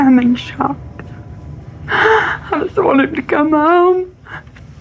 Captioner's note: sobs